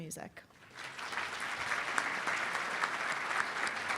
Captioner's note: applauding